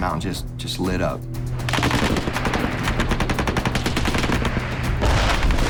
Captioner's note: rapid gunfire